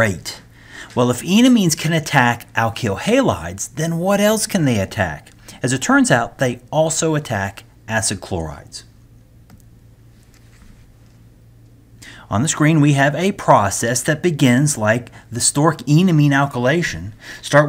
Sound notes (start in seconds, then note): 10.1 turn page